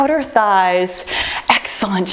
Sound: timer beeping

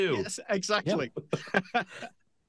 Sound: all laughing

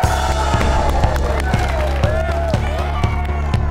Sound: crashing sound

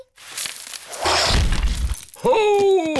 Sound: thuds

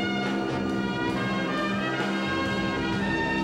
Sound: wind blowing

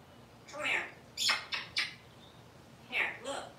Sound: smooch, smooch, smooch

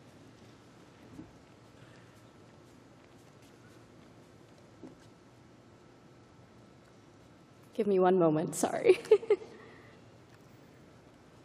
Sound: chuckling

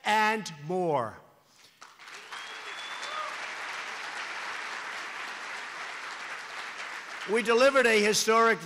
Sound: applause

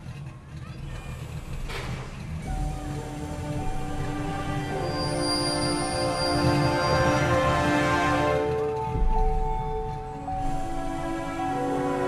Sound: car rumbling, gate opening and closing

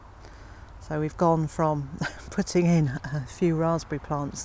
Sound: laughing

